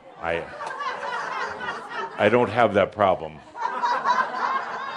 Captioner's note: laughter; more laughter